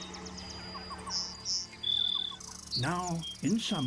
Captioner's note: drone of buzzing; chirps